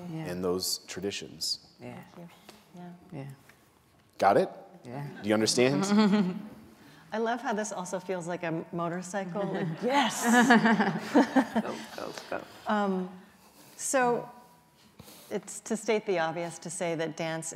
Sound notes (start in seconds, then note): 9.5 laughing